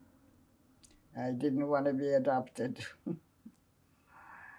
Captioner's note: laughing